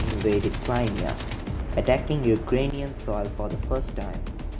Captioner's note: bomb and gunfire sound